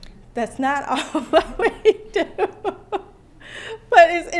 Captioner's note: laughter